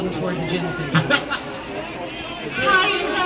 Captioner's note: chuckle